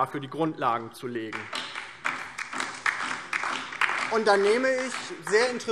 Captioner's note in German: Beifall DIE LINKE